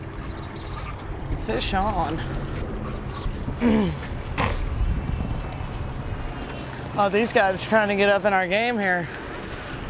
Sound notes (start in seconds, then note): 5.8 reel clicking